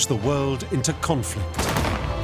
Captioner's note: gunfire